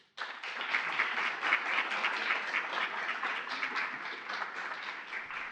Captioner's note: applause